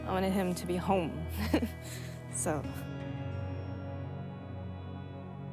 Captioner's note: laughs